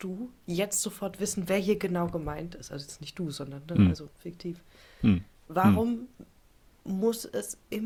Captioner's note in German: räuspern